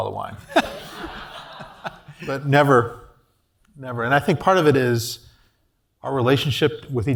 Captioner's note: laugh